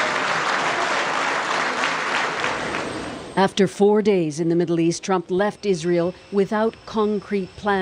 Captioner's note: applause